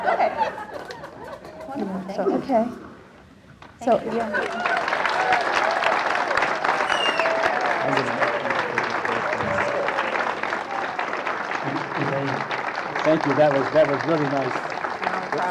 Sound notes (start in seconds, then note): 4.2 loud cheering; 4.2 loud clapping; 10.7 loud clapping